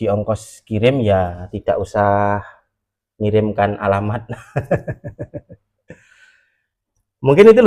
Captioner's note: laughs